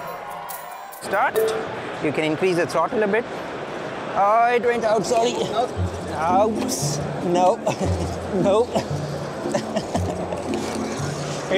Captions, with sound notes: - Start. You can increase its in a bit. Oh, it drained out, sorry. Oops. Nope, nope. (laughing)